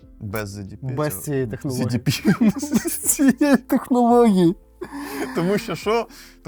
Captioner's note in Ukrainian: сміх